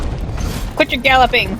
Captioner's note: air slam